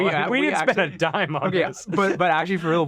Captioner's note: chuckles